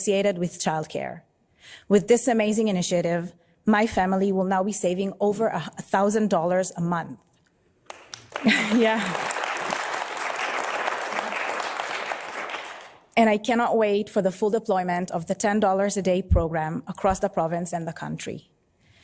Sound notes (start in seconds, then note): 12.2 applause